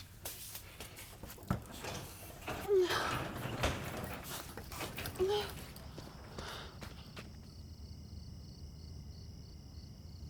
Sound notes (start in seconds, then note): 1.5 door squeaking; 2.4 Brandy groaning